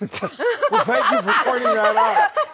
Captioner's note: laugh